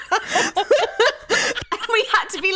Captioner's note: both laughing